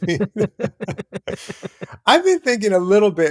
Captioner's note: laughter